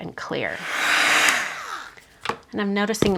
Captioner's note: heat tool whirs